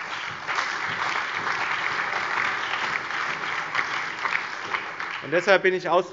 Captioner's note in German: Allgemeiner Beifall